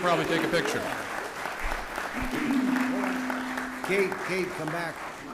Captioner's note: applause